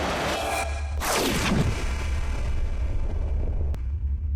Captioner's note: sweeping away sound; rumbling